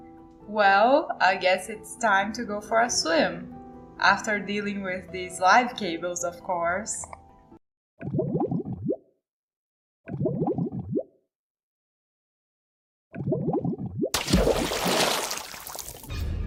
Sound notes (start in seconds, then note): 7.7 bubbles bubbles; 14.1 splash